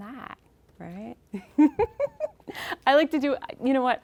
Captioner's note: laughing